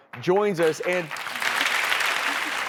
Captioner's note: crowd Claps